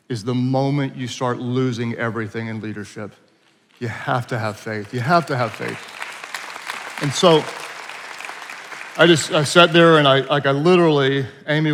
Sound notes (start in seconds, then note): 5.8 attendees applauding